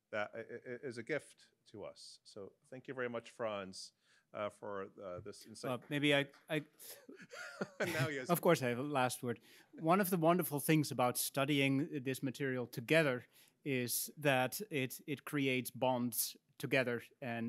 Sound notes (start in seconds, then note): 7.0 laughs